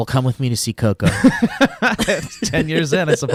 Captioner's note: laughs